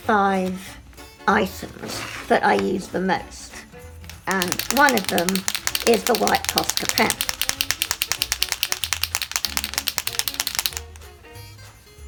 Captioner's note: pen shaking sound